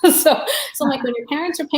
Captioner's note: laughs